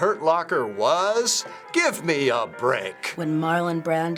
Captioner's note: indignantly